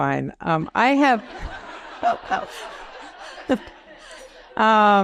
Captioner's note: audience laughs